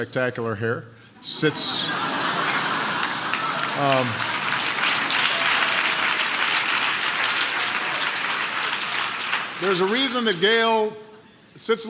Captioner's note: laughter and applause